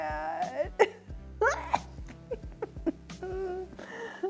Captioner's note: laughs